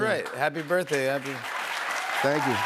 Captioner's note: cheers and applause